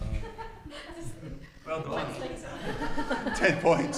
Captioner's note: attendees laughing and chattering